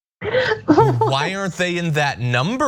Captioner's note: laugh